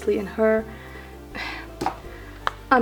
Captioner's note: sigh